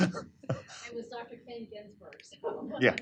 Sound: laughter

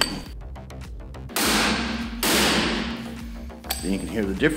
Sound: metallic hammering

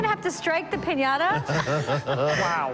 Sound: laughter

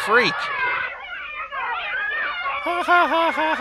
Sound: kids cheering

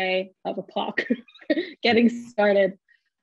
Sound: chuckles

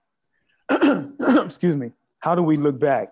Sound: clears throat

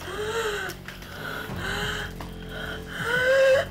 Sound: woman pants

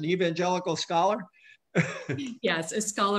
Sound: chuckles

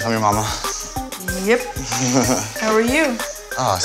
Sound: laughs

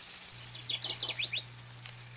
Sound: bird tweeting

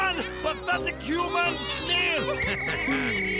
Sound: whistling

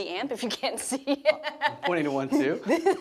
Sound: laughs

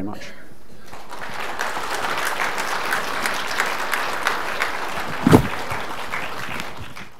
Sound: applause

